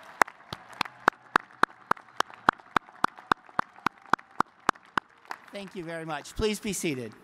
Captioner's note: cheers and applause